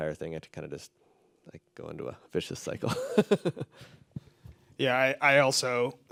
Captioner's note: laughs